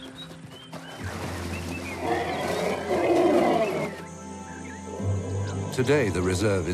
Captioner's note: water splashing; groaning